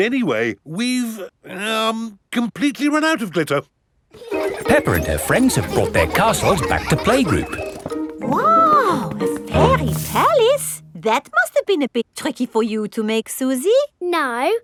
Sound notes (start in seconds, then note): 4.1 children laughing